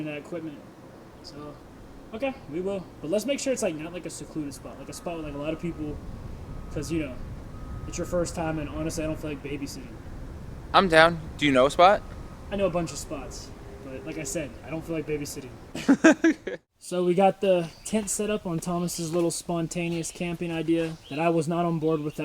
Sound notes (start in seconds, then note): 16.9 laughs